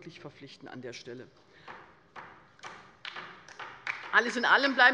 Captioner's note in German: Beifall bei der LINKEN